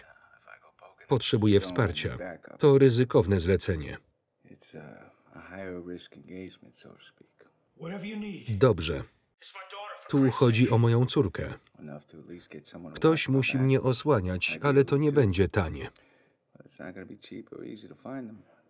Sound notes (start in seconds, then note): none